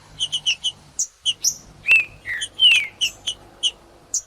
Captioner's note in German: trinca ferro cantando